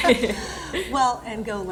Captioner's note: both chuckle